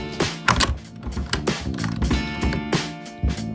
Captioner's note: 80s chase music; typewriter keys; 80s chase music; key in lock; 80s chase music